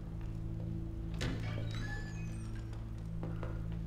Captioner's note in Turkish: Kapı açılma sesi